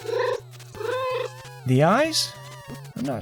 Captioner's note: meow